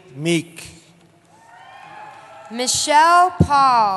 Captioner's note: cheering